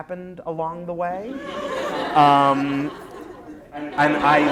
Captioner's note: laughter